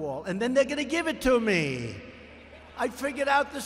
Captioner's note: laughter